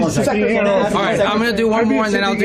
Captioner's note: chit-chat